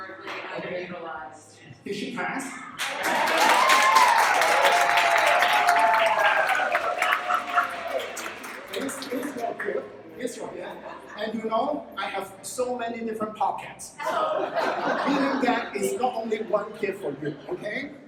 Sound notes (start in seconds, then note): 5.7 claps